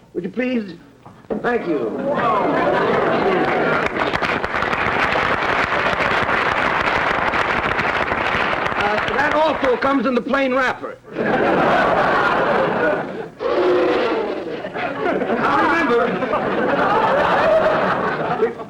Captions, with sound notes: Would you please-- thank you. [audience marvelling] [applause] That also comes in the plain wrapper. [audience laughter] [blows] Now, remember-- [audience laughter]